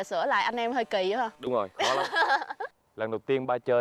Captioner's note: laughing